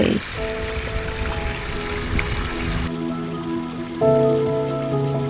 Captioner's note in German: Bachrauschen